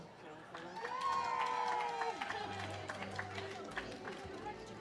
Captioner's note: audience cheers